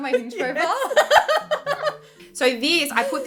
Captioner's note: laughing